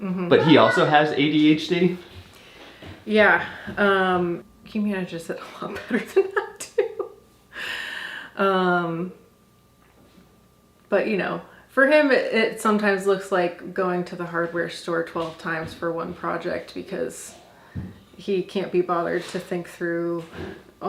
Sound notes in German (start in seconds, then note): 5.7 lacht